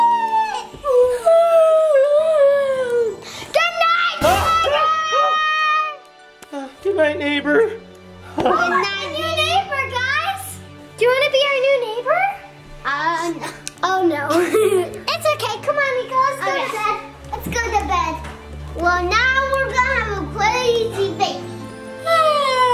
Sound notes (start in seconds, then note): 0.3 yawning loudly; 3.8 yelling; 14.2 laughs